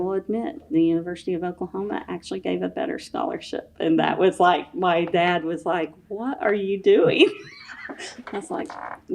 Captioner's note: laughs